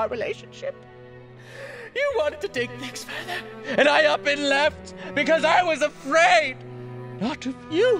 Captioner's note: inhales